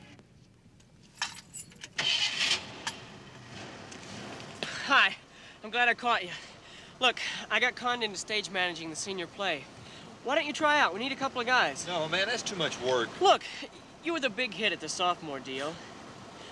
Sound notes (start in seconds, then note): 1.9 engine turns over